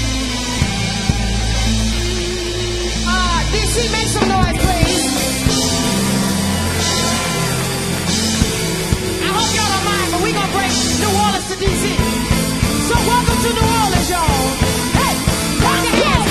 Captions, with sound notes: - Oh, D.C. make some noise, please! [crowd cheers] I hope y'all don't mind, but we gonna bring New Orleans to D.C. So welcome to New Orleans, y'all! Hey! Come on!